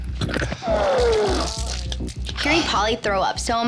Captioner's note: man vomits